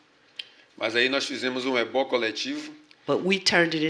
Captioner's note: speaking portuguese